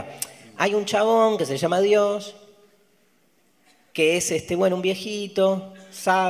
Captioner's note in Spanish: none